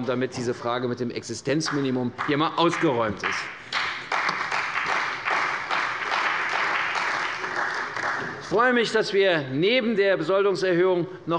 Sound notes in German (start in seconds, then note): 2.6 Beifall bei der CDU und dem BÜNDNIS 90/DIE GRÜNEN